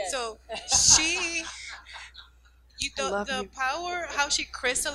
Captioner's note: laughing